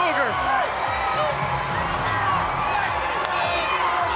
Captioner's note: crowd cheering